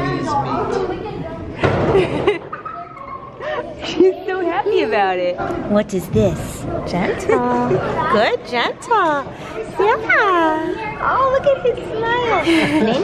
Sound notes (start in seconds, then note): 2.0 laughing